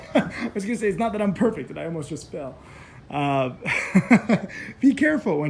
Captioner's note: laughs; laughs